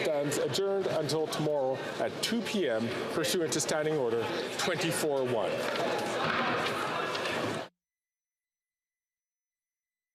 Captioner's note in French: voix de l'interprète